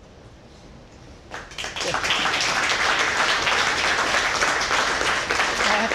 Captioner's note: applause